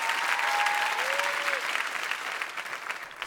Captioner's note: audience cheering